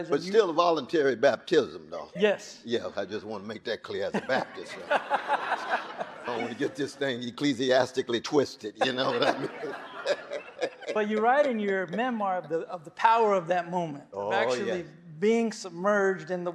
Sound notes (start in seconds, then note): 4.1 audience laughing; 8.8 laughs